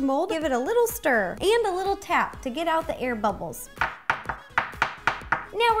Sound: tapping noises

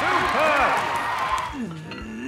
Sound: grunting

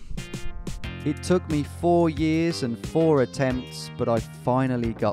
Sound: voiceover

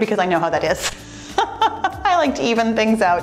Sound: laughs

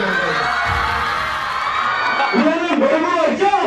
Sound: cheers

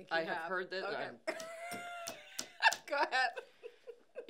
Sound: laughing; tapping

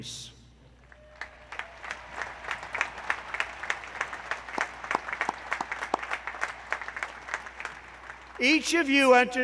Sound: applause

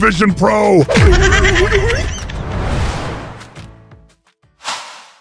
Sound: laughing

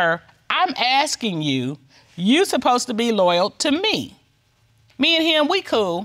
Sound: judge dana reading

